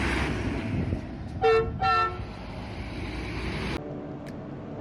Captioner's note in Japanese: バスのクラクション音